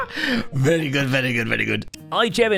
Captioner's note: victorious laugh